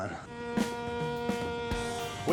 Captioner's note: boat horn sounding